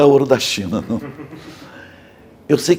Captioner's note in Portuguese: risos